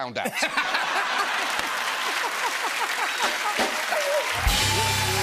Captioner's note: laughter; cheers and applause